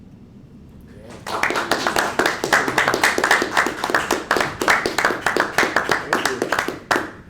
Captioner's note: applause